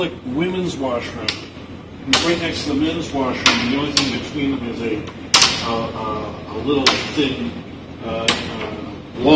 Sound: cane banging

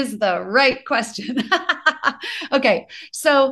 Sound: laughs

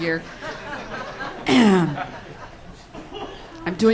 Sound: laughs

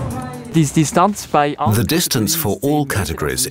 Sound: speaking German

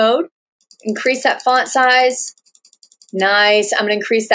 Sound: clicking

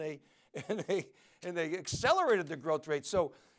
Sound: laughs

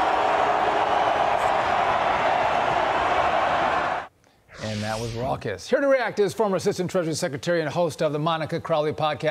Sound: cheers and applause

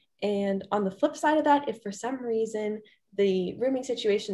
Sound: none

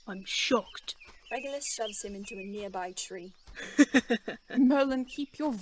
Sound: James laughs loudly

